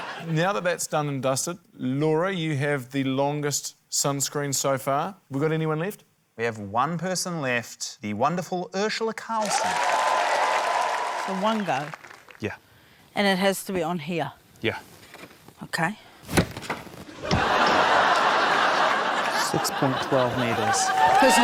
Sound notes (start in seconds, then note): 9.4 cheering, applause; 17.1 laughter